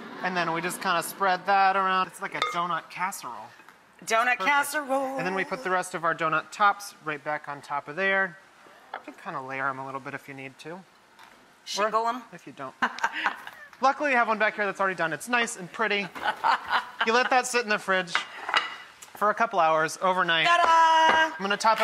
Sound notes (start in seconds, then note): 12.8 laughter; 16.0 laughter